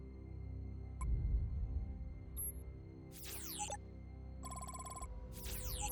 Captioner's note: monitor blips and whirrs